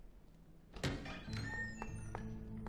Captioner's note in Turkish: Kapı gıcırdama sesi